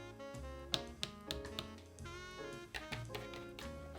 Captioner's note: tapping